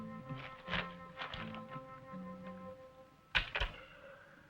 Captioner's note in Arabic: حفيف الورق